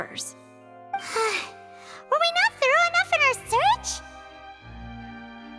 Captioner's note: sigh